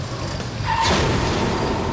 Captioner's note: crash